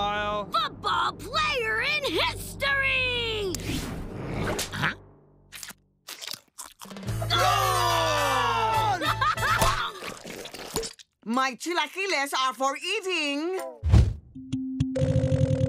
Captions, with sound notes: ...football player in history! Goal! [laughing] My chilaquiles are for eating.